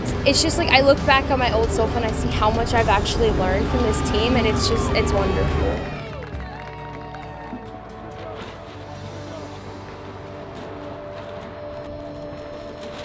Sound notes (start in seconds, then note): 6.2 crowd cheering; 7.1 upbeat music